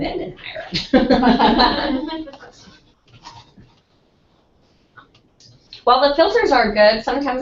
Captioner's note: laugh